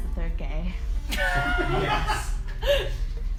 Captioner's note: laughing and cheering offscreen